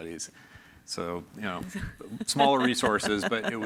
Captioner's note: laughs